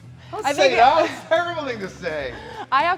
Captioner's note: Sol chuckles